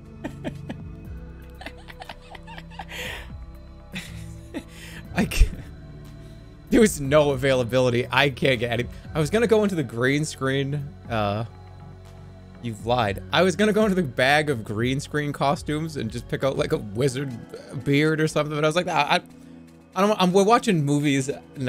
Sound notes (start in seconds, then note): 1.5 chuckles oddly; 3.8 chuckles